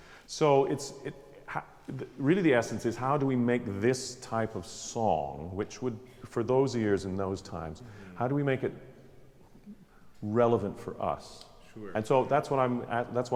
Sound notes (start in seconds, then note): none